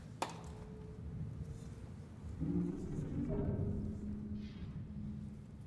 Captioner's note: growling noise